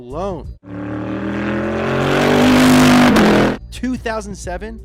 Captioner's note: engine revving